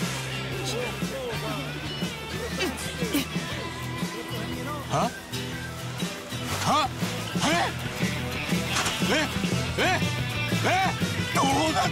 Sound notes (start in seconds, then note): 8.3 yelling